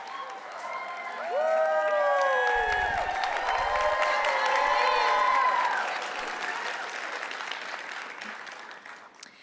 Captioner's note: clapping